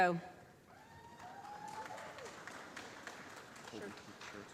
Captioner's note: applause